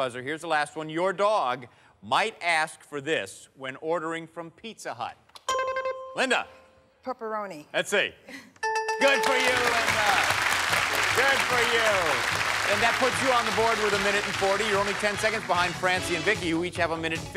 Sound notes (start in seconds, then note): 5.5 bell chimes; 8.6 bell dinging; 11.2 applause